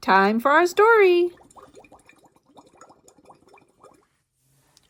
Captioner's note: water bubbles